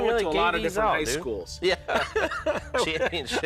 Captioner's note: laughter